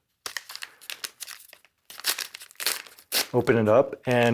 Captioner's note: paper rustling